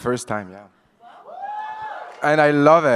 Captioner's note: audience cheers